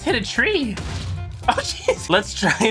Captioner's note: explosion; laughing